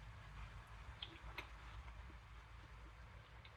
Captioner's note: chewing